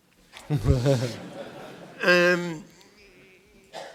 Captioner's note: laughter